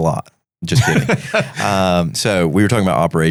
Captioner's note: laughing